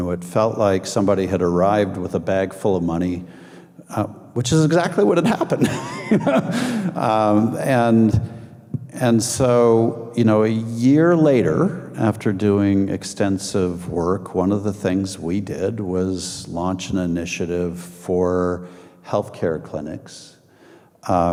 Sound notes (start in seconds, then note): 5.2 laughing